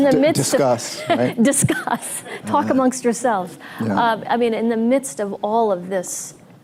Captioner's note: laughs